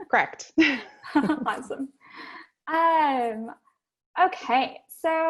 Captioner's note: laugh